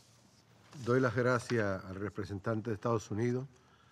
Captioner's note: in Spanish